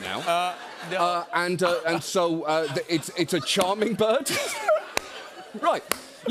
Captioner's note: laughter